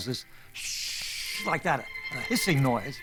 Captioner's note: imitating hissing